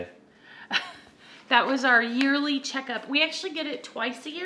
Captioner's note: laughs